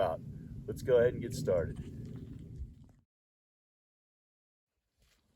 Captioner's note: dirt crunching underfoot